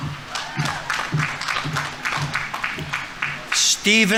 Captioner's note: audience applauding; audience members cheering